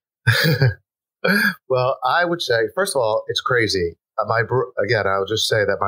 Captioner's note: laughs